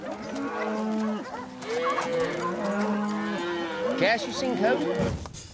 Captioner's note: hollering in distance; cattle moo